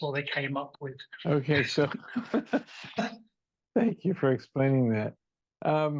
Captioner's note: laughs